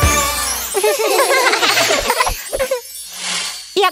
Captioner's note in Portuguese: Risos